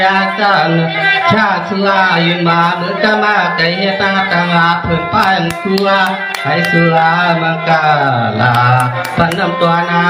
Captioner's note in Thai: ปรบมือ